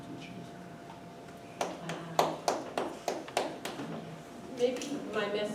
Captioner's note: clapping